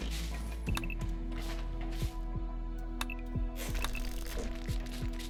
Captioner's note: clicking